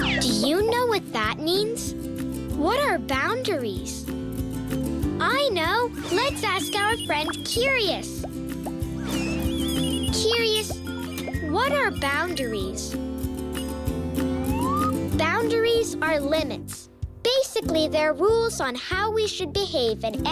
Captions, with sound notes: Do you know what that means? What are boundaries? I know, lets ask our friend Curious. Curious, what are boundaries? (beeping) Boundaries are limits. Basically they're rules on how we should behave